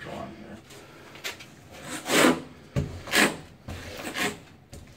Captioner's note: taping knife scraping